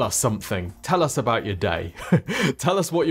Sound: chuckles

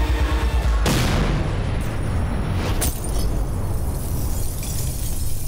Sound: bomb blast; car glass shatters

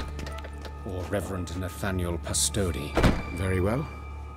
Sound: with distaste

